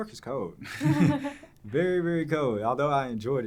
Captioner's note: both laughing